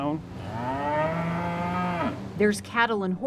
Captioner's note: cows mooing